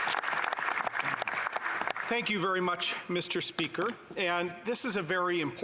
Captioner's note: some Applause